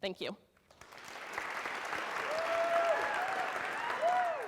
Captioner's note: applause